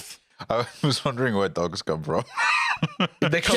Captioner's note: laughs